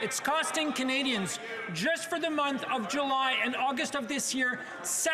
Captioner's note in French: voix de l'interprète